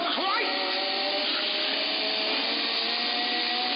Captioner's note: chain saw buzzing